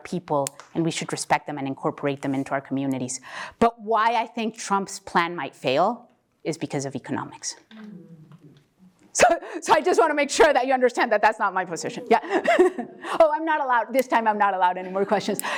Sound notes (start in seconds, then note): 11.9 laugh